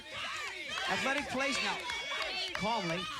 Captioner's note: chanting